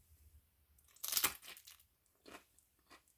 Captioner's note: Crunch